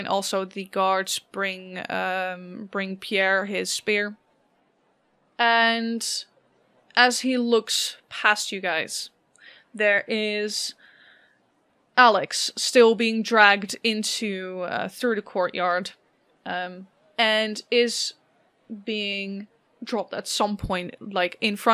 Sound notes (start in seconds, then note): none